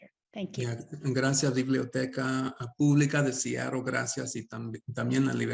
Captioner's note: speaking Spanish